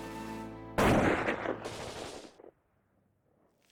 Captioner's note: firing